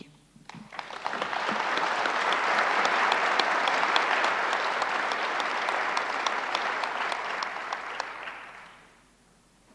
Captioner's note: applause